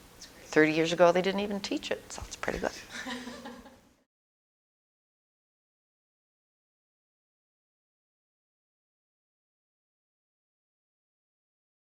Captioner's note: audience: Laughter